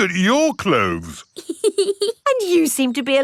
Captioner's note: laughs